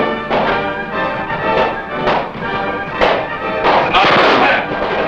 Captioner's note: guns fire